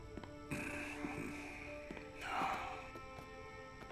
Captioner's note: Víctor suspira